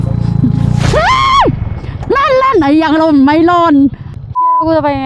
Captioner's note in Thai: ยอุทาน